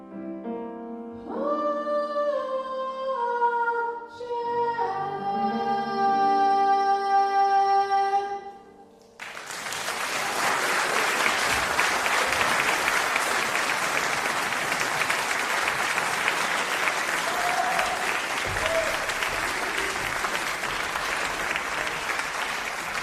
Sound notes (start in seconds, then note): 9.2 applause